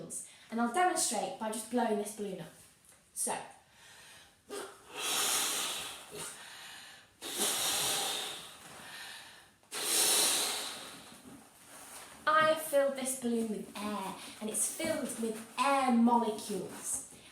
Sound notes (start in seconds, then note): 4.5 blows into balloon; 6.4 takes deep breath; 8.4 takes deep breath